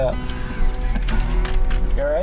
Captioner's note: laughing